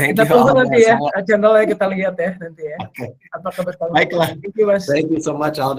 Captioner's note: non-english speech